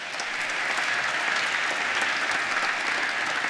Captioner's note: applause